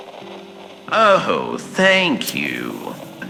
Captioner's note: clipping flowers fx